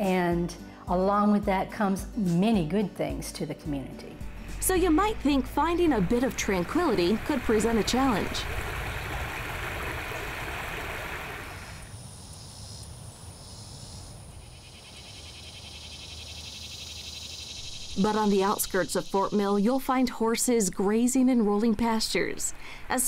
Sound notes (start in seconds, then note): 9.7 water cascading; 12.5 crickets resonating; 14.9 cicadas reverberating